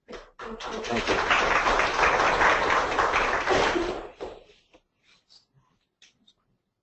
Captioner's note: audience applauding